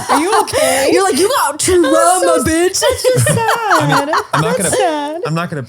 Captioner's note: laughing